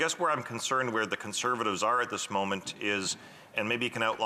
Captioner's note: off mic